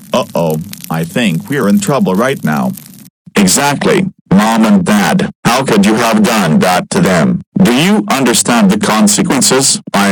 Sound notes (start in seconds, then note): 3.3 Daisy in raging Eric voice